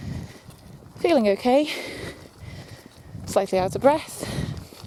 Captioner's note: breathes heavily